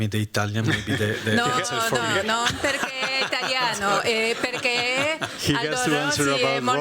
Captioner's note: speaking spanish